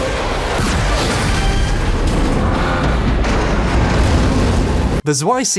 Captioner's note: exciting music; loud booming